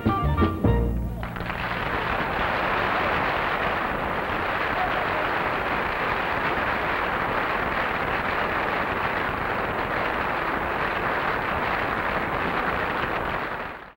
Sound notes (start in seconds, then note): 1.0 audience applauding